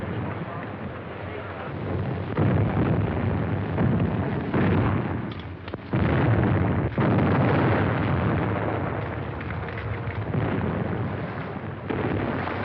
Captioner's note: explosions